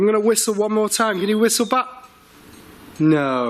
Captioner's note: high pitched whistling